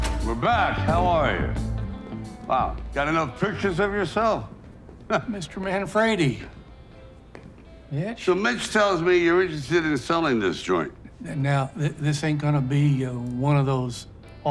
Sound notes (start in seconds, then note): 4.7 laughing